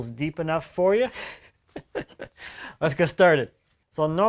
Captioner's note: man laughs